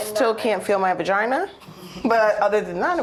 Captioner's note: laughs